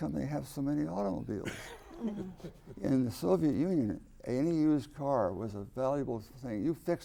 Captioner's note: laughter